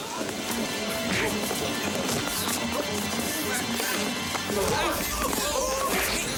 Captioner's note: suspenseful music; smacking